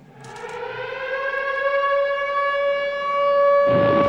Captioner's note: air Raid Sirens Wailing; explosions